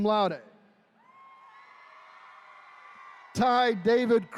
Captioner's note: attendees cheering